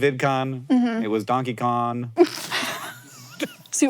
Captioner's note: Maya laughs